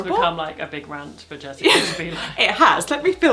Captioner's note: laughs